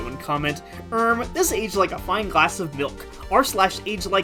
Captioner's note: annoying commenter voice